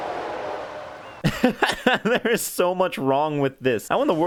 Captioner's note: laughs